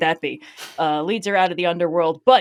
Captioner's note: laughs